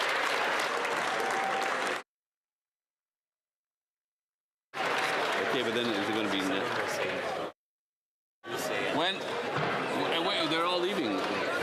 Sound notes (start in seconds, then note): 4.7 applause; 11.0 some Applause